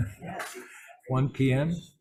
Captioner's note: laughs